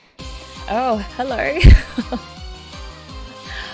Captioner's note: laughs